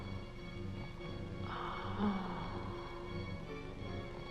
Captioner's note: soft moaning